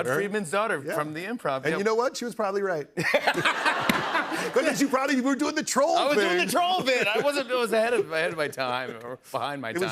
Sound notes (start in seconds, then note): 3.0 laughter